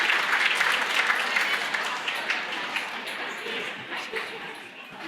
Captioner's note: audience chattering